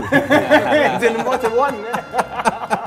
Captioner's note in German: Gelächter